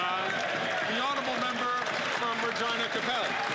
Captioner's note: some Applause